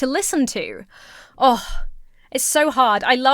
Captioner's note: sighs